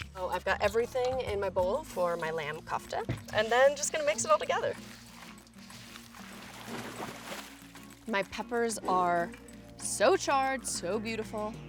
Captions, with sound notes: So I've got everything in my bowl for my lamb kofta and then, just gonna mix it all together. (water splashing) (upbeat music) My peppers are so charred, so beautiful.